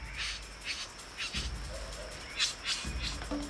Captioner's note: bird squawking; energetic music